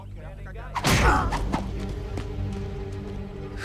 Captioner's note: stick thuds; Knox grunts; tense music